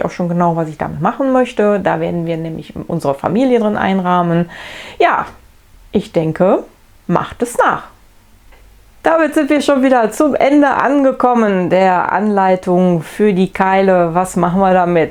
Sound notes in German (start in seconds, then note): none